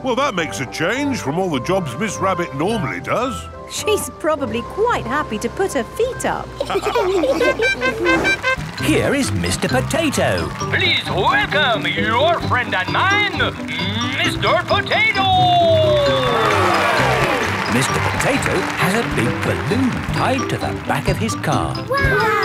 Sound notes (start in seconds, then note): 6.6 all laughing; 7.4 horn tooting; 16.8 cheering